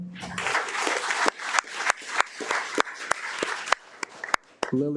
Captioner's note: audience applauding